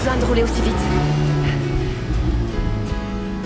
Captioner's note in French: Sophie soupire